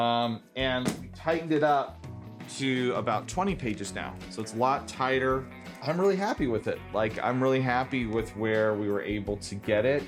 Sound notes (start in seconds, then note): none